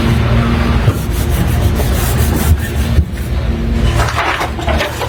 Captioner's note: rubbing material